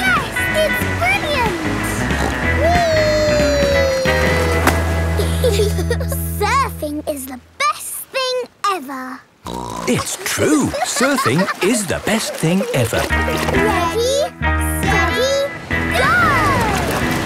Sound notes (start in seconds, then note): 2.0 snorts; 5.1 giggle; 9.5 snorts